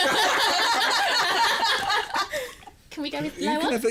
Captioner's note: laughter